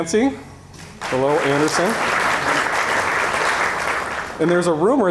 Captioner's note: audience applauding